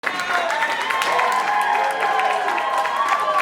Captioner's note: audience cheering and applauding